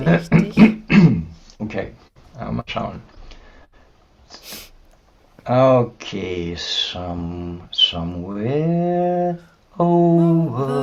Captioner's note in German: räuspern; schnauben; singen